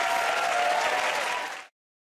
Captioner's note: cheers and applause